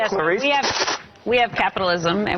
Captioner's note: hisses